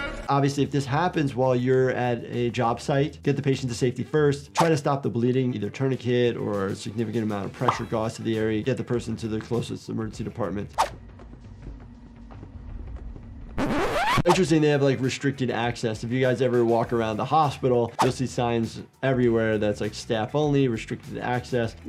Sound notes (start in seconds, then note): 4.5 graphics swishing; 7.6 graphics popping; 10.8 graphics swishing; 11.5 character shuffling; 13.6 graphics fuzzing; 13.6 graphics swishing; 18.0 graphics swishing